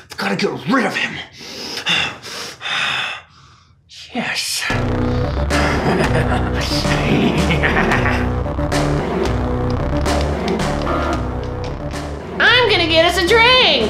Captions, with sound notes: I've gotta get rid of him! Yes! (evil laughter) (sinister music) - I'm gonna get us a drink!